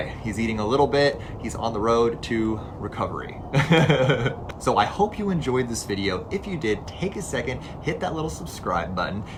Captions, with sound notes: He's eating a little bit. He's on the road to recovery. [laughs] So I hope you enjoyed this video. If you did, take a second, hit that little subscribe button,